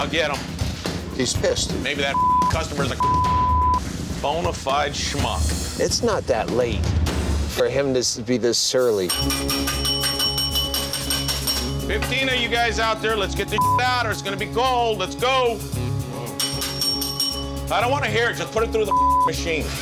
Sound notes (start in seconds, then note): 9.7 bell dinging; 16.4 bell dinging